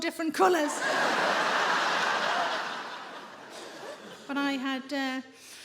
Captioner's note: audience laughing